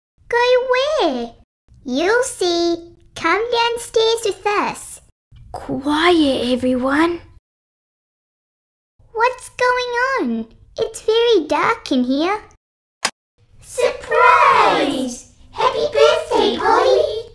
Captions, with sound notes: Go where? You'll see Come downstairs with us Quiet everyone.... What's going on? It's very dark in here (Click!) Surprise! Happy birthday Polli!